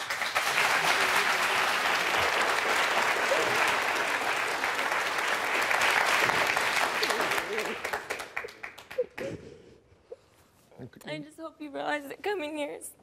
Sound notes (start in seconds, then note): 0.0 audience applauding; 3.8 crying